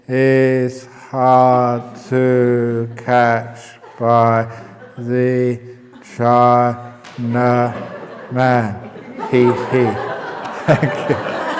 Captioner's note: laughter